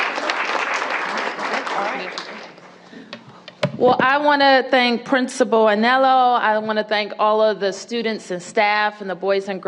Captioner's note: applause